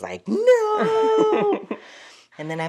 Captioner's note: laughter